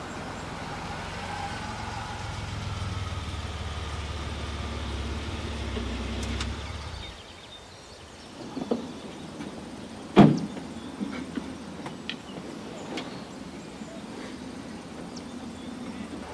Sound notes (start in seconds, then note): none